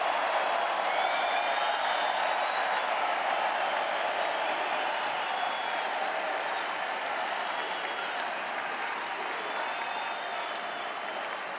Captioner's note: cheering and Applause